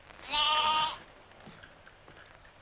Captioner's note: bleating